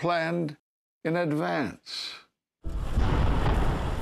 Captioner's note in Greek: Έκρηξη